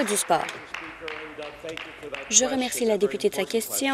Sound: applause

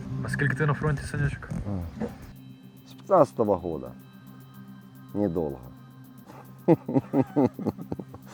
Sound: laughter

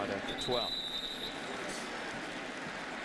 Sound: whistle

